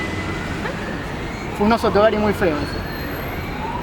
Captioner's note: laugh